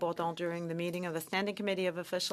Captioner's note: speaking French